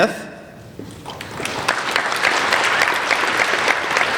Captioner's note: applauding